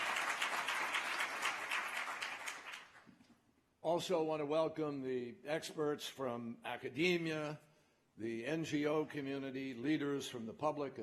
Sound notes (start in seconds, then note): 2.8 applause